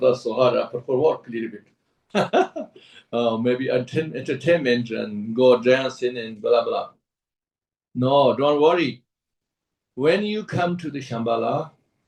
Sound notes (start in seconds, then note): 2.2 laughs